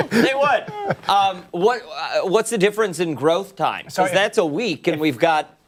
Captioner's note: laughter